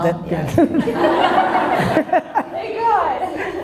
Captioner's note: audience laughter